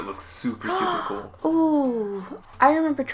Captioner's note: gasps